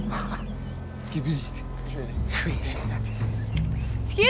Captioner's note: Laughs